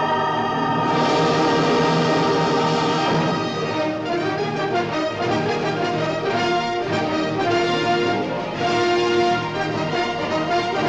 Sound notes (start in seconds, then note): none